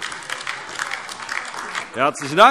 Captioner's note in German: Beifall AfD